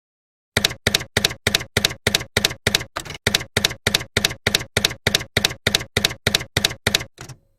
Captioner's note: typewriter keys clacking